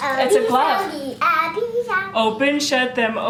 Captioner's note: vocalizing